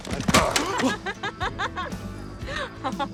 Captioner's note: woman laughing